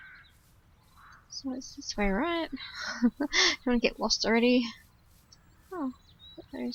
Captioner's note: laughs